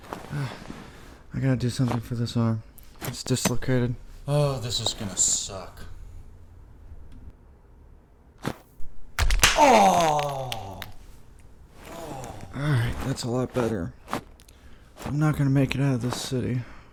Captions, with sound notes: (Sigh) I got to do something for this arm, its dislocated. Oh, this is going to suck. (Painful popping) Alright, that's a lot better. Not gonna make it out of this city